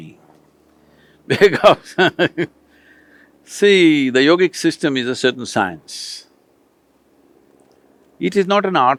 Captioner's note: laughs